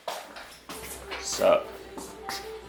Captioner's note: footstep sounds